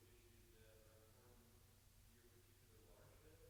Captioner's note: none